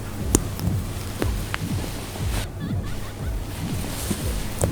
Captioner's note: water splashing